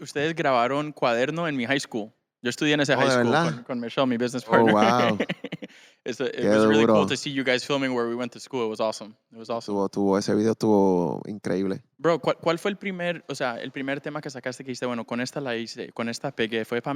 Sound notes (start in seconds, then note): 4.4 laughing